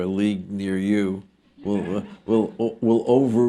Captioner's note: laughter